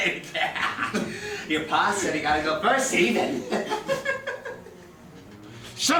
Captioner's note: evil giggling